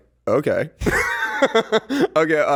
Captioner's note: laughing